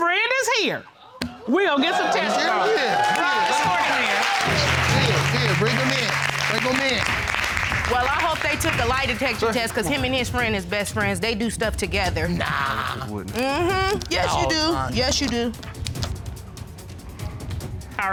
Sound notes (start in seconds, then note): 4.1 audience exclaiming